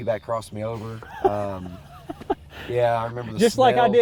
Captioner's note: hunters laughing